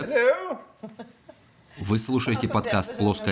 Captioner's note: chuckles